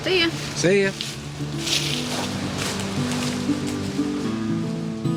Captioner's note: footsteps; gentle acoustic guitar